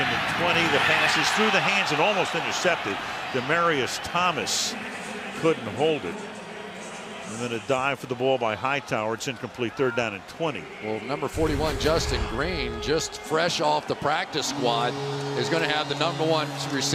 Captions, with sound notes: On second and 20, the pass through the hands and almost intercepted. Demaryius Thomas couldn't hold it. [pa announcement] And then a dive for the ball by Hightower, it's incomplete. Third down and 20. Well, number 41, Justin Green just fresh off the practice squad is going to have the number